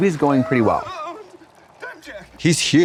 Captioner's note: Chris shivers